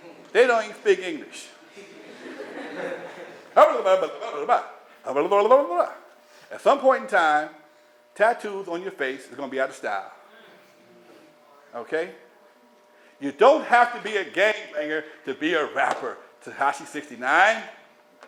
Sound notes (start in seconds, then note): 3.7 speaking gibberish